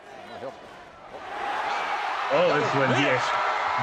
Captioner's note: crowd cheers